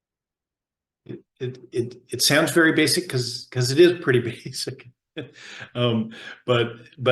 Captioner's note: chuckles